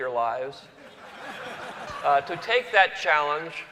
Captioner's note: laughter